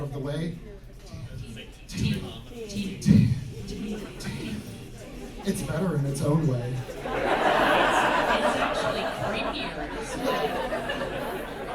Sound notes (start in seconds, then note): 4.4 quiet chanting "teeth teeth teeth; 6.9 audience laughter